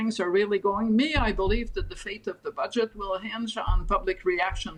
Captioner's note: none